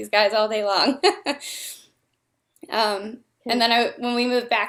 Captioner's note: laughter